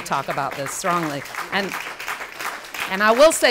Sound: applause

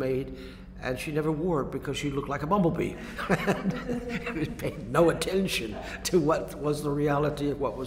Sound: laughter

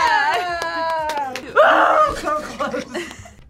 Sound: screams; both laugh

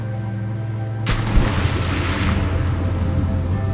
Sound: splash

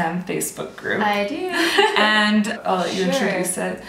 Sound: laughter

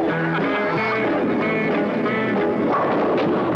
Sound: ten-pin ball rolling; pins crashing

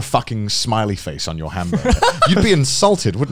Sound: laughing

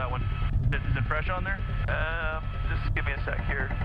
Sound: voiceover

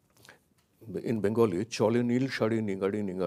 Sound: speaks in a foreign language

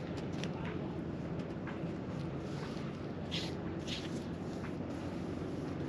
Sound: brushing

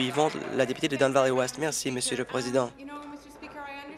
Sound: applause

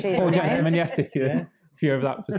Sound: light laughter

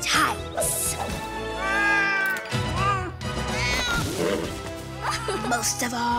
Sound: cat meows

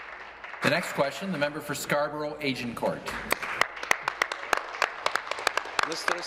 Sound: applause

